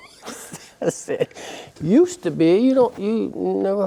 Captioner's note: laughs